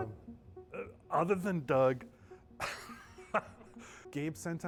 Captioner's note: laughing